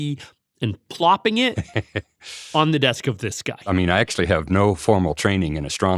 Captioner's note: laughs